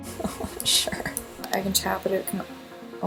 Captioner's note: laughs